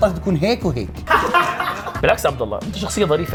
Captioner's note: laughter